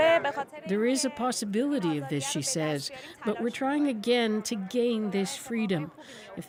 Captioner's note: speaking Alternate Language